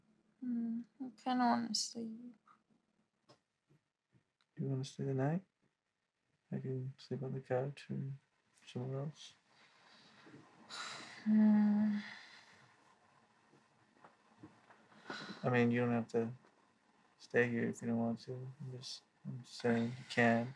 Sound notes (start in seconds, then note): 10.6 Mickey takes a deep breath; 12.4 light rustling; 14.9 she takes another breath